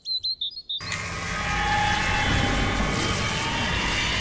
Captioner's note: birds chirping; wind whirring